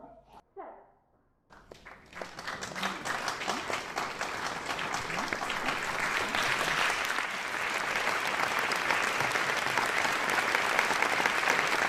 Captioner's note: applause